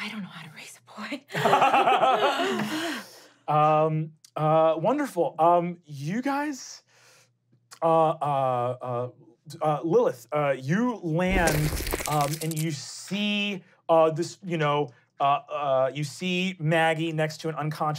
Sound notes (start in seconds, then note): 1.3 laughing; 11.3 cracking